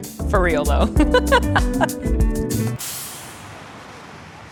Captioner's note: laughs